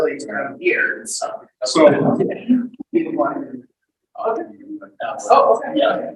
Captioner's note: people chattering indistinctly